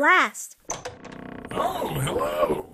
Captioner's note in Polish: skrzypiące drzwi